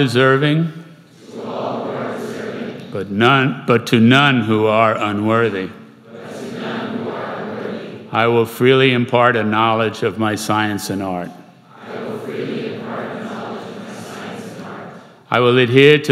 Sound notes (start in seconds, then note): 1.1 crowd; 6.0 crowd; 11.6 crowd